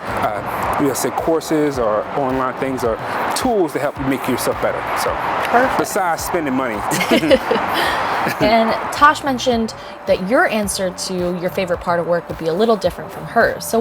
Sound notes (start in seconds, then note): 6.8 both laugh